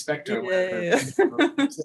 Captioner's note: laughing